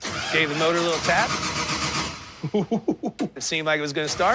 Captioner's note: chuckling